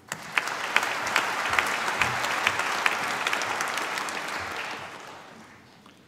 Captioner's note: applause